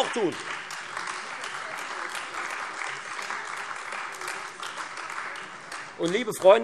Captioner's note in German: Beifall Freie Demokraten und AfD